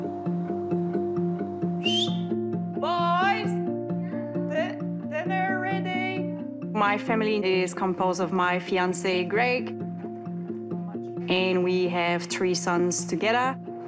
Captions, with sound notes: (WHISTLES) Boys? - Yeah? - Dinner ready. My family is composed of my fiancee, Greg, and we have three sons together.